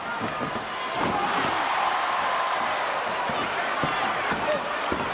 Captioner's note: audience cheers